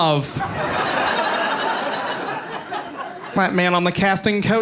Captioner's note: audience laughing